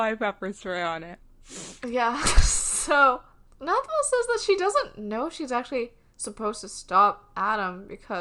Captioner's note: laughs